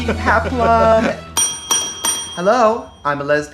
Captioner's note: bell dinging